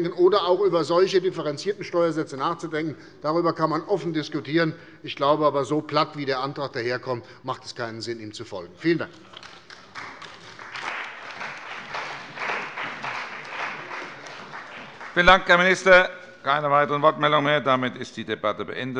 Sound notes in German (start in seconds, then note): 9.2 Beifall bei der CDU und dem BÜNDNIS 90/DIE GRÜNEN